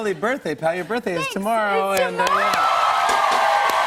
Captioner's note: cheers and applause